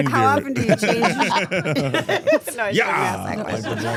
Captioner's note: all laughing